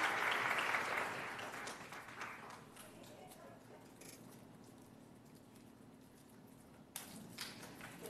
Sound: applause

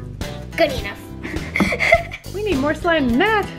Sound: upbeat pop music; laughs

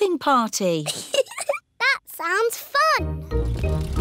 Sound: giggles

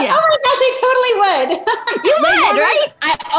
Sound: laughing

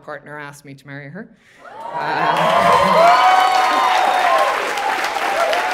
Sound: audience applauding

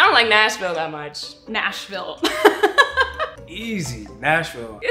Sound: laughs

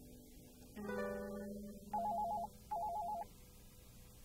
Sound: phone rings

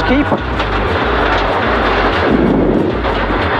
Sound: car rattles

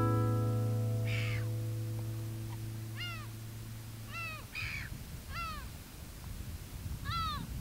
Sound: sound of seagulls

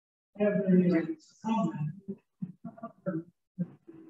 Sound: indistinct audience talking

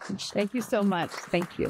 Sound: applause

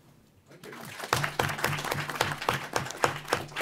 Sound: applause

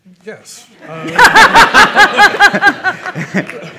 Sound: laughter

